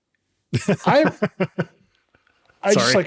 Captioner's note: laughing